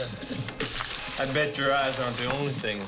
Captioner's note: money rustling